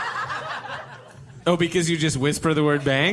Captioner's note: audience and cast laughter